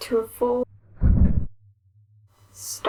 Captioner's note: rumble!